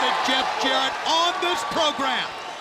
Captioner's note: crowd cheering